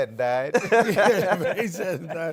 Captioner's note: laughter